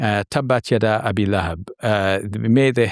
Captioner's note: speaking in a foreign language